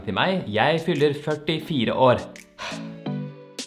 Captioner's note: sigh